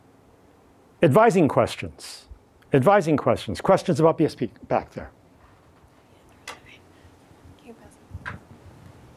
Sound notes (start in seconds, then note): 6.2 whispering